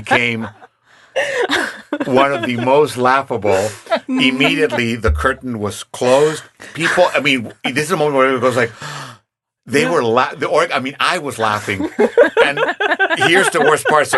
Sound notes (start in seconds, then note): 0.0 laughing; 8.9 imitates gasping; 11.8 laughing